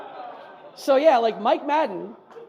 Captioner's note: audience laughs; audience laughs more